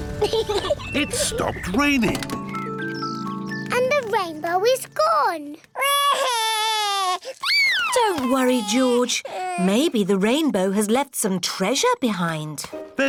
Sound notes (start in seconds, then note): 0.2 peppa pig laughs; 5.8 cries